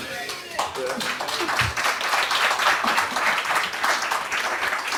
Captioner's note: audience clapping